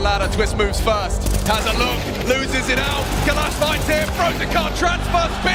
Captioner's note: gun firing